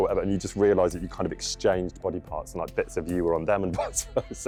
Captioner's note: laughing